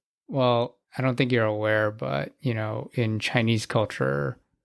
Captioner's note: none